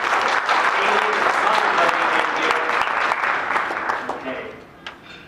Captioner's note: applause drowns out all other sounds